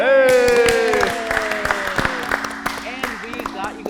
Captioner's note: participants clapping